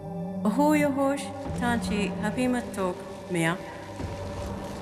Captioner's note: speaking Choctaw